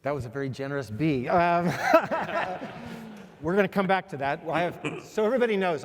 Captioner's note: laugh